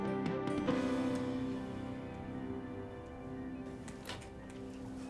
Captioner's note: remote clicking